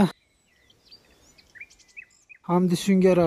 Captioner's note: bird sounds